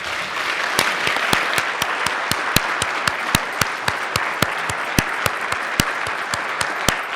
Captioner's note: applause